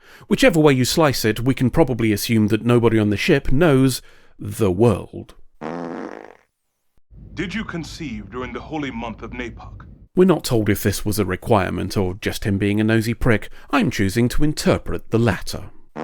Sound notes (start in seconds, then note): 5.6 fart noise